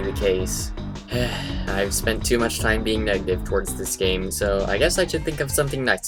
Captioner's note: sigh